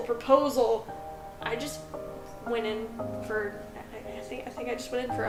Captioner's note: stammers